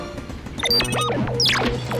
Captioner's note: beeping